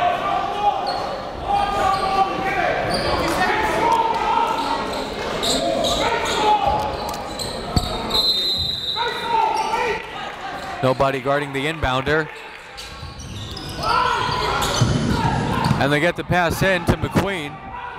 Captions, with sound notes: (coaches and players yelling) (whistle blows) Nobody guarding the inbounder. And they got the pass in to McQueen.